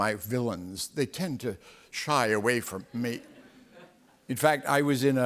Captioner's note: laughter